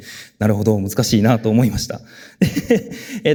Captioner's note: chuckles